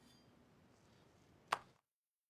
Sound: clap!

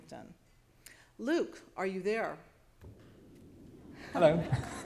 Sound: applause

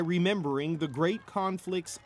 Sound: cheers and Applause

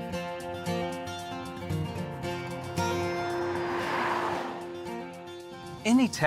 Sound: energetic music continues; vehicle droning

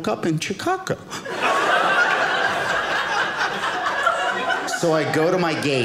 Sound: audience laughing

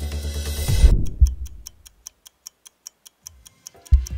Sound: clock ticking

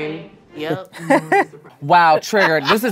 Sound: laughs

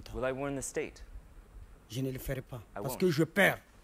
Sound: speaks in a foreign language

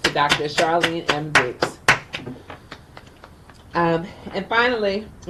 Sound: clapping

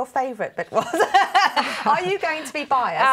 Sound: laughter

